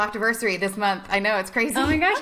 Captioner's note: laughing